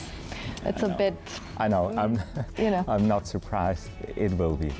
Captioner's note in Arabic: ضحكة خافتة